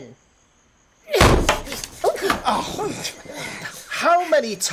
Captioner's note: big bang, as their door bursts open